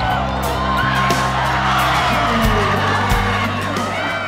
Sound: cheers and applause

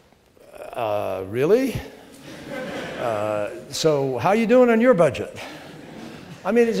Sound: laughter

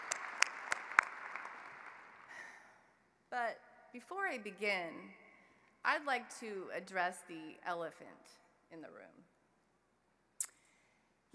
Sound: applause

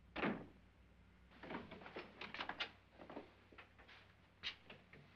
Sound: door closes; door opens

